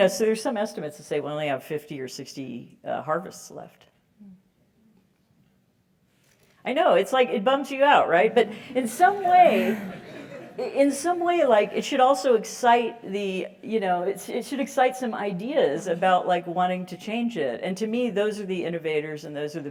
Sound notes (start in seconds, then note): 9.0 laugh